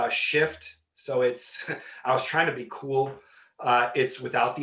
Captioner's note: laughing